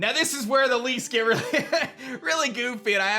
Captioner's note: chuckles